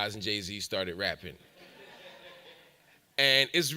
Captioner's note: audience laughs